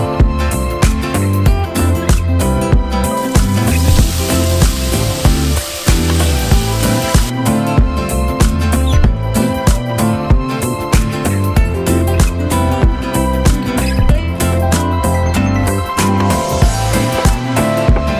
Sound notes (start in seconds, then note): 3.1 fire sizzling